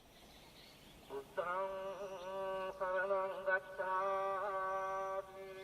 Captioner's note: chanting in foreign language